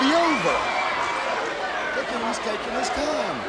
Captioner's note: crowd cheering